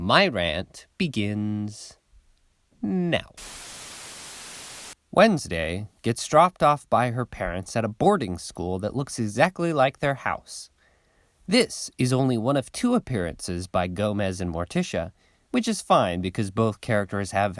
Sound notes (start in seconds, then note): 3.3 static